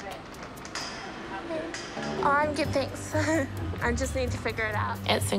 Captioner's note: chuckles